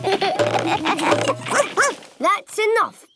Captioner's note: all laugh; barks